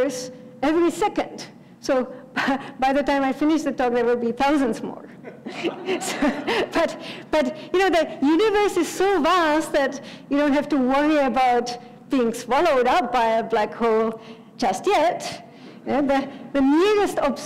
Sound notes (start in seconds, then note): 5.2 laugh